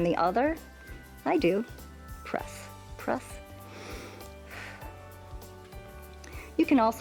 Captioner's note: inhales and exhales